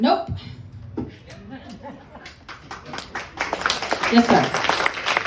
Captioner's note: laughter, applause